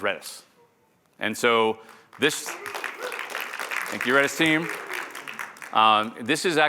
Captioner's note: applause